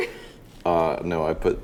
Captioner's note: laughs